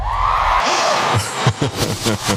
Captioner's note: audience Cheering; laughing